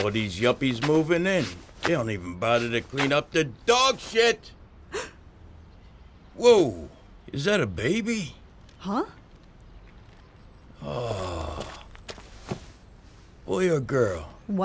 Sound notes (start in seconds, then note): 4.9 person gasps